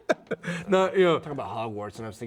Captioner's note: laughing